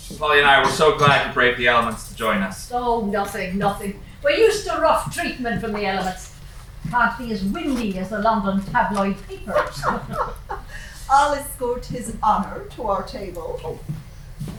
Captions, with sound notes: Polly and I were so glad you braved the elements to join us. Oh, nothing, nothing. We're used to rough treatment from the elements. Can't be as windy as the London tabloid papers. [LAUGHING] I'll escort His Honor to our table. Oh.